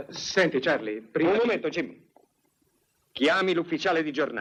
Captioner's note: none